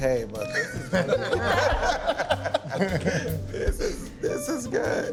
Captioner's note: laughing